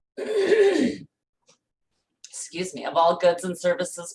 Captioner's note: clears throat